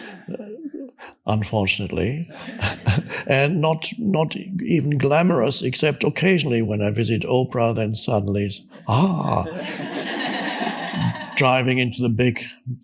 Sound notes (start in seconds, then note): 8.8 audience laughs